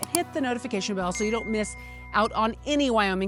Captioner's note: computer mouse clicking; bell dinging